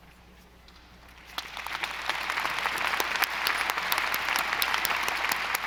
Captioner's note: audience applauding